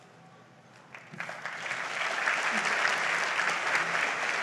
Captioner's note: audience applauds